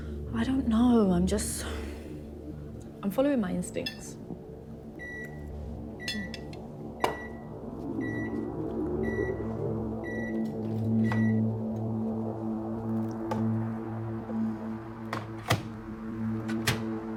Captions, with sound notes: I don't know, I'm just, I'm following my instincts. (microwave beeping) (dramatic music)